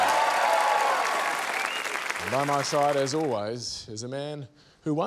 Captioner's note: cheering, applause, whistling